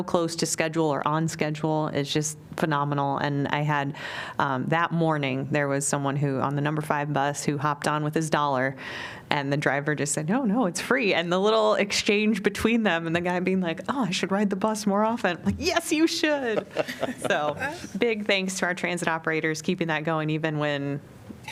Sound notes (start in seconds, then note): 16.4 laughter